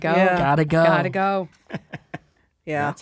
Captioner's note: chuckles